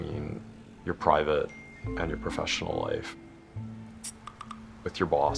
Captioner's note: phone dings; typing into phone